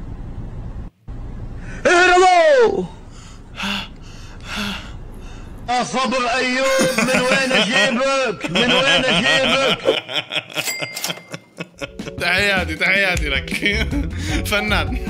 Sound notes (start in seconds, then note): 9.8 laughter